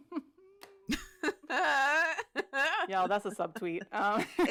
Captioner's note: laughter; laughs